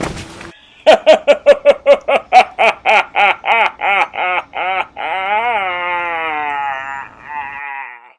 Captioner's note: spooky laugh